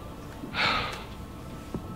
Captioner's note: sighs